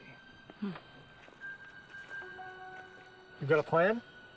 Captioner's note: footsteps crunching